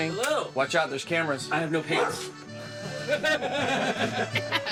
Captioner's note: laughing